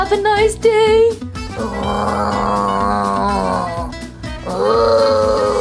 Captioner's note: Frankie grunts